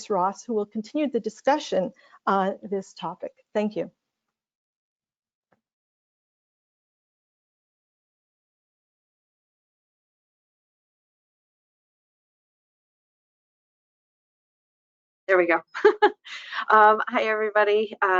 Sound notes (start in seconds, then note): 6.4 muted